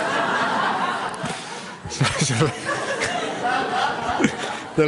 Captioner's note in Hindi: हँसी